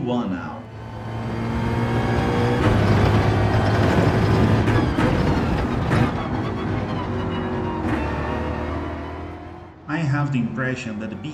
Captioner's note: engines revving, tyres grip, racing sounds